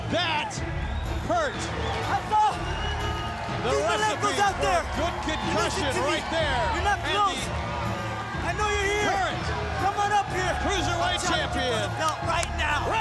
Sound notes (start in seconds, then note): 2.3 Rey Jr vocalizing